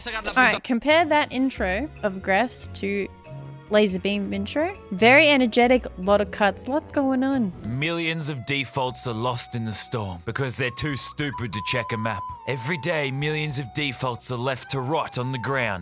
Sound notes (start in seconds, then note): none